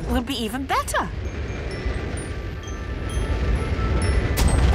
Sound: rocket thrusting

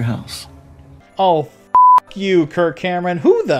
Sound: beep

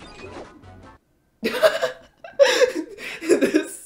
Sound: giggling

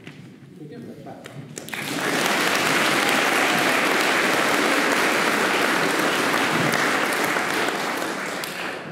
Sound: applause

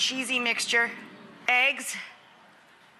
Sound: audience oohing excitedly

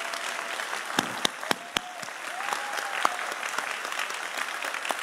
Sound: audience applauding

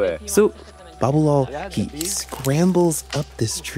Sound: none

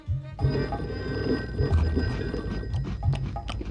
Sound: phone ringing

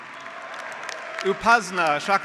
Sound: graduates applauding

